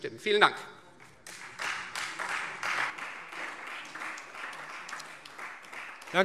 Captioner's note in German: Beifall Freie Demokraten und SPD